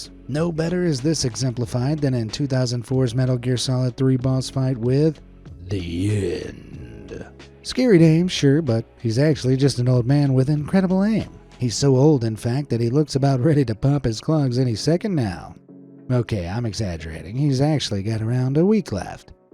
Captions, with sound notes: No better is this exemplified than in 2004’s MGS 3 boss fight with (in an evil voice) The End. (in normal voice) Scary name, sure, but he’s actually just an old man with incredible aim. He’s so old in fact, that he looks about ready to pop his clogs any second now… Okay, I’m exaggerating. He’s actually got around a week left.